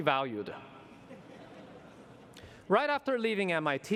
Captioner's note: laughter